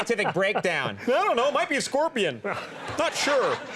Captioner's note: sarcastically